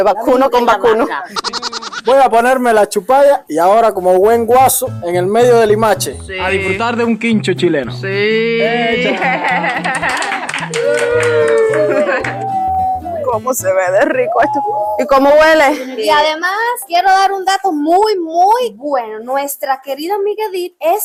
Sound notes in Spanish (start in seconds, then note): 8.9 Risas y aplausos